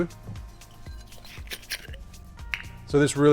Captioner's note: lid squeaks